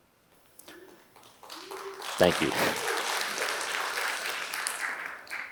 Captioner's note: applause